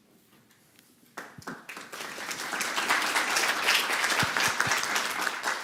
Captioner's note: applause